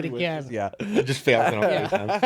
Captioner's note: laughing